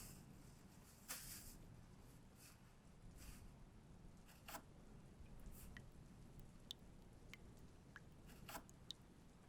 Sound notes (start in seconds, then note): 5.1 water dribbling